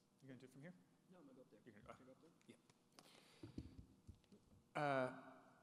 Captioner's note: speaking off microphone